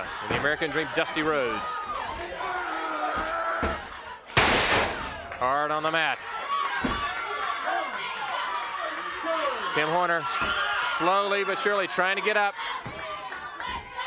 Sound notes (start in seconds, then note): 0.0 blows thudding; 2.5 body thudding; 2.5 grunting; 7.2 crowd clamoring